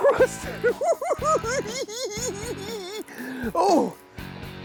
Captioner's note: laughs